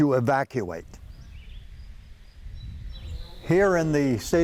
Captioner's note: birds singing